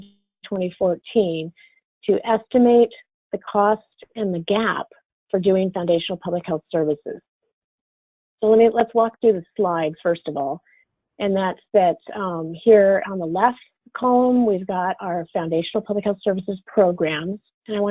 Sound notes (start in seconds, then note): none